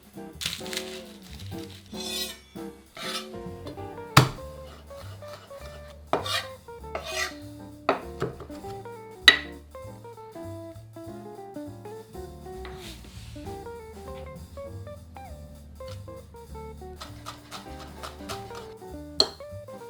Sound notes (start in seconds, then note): 0.4 garlic paper rustling; 3.6 knife chopping; 3.9 knife smashing